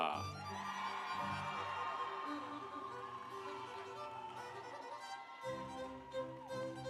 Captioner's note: audience cheering; instrumental music